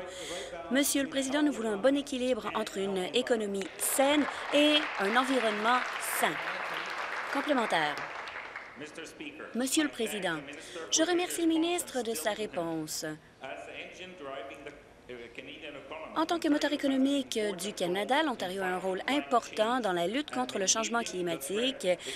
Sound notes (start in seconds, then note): 7.1 applause